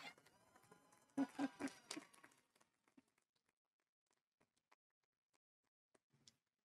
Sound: audience applauding; audience cheering

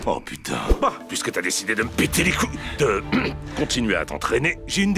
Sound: ahem

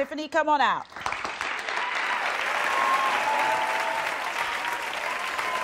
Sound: audience clapping

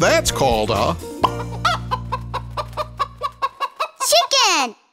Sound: clucking

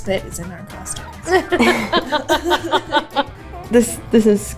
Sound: both laughing

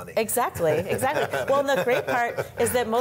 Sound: laughs

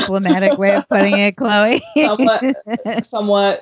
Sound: laughs

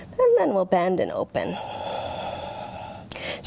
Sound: deep breath

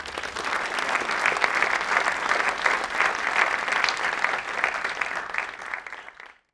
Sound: applause

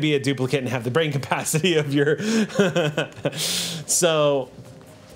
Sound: laughs

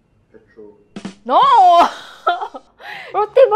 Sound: laughs

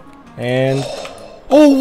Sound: gasps

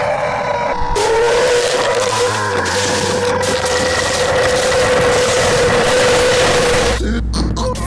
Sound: creature growling loudly; creature growling violently, ripping flesh, falling through trees and foliage; guttural monster moaning

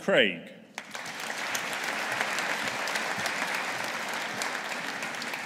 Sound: audience applauding

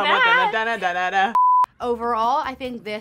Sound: beep

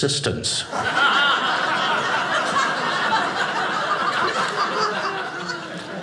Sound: audience laughing

